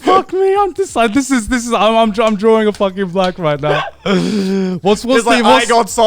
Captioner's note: clapping